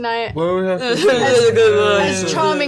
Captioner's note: slurring